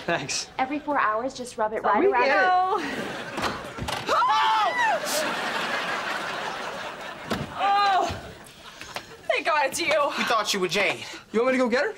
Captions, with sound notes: Every four hours just rub it right around- - We get it. - We know. [shrieking] [groaning] - Thank God it's you. - We thought you were Jade. You want to go get her? She's--